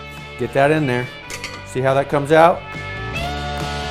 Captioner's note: glass clinking; rock music